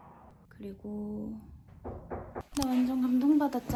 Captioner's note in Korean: 노크소리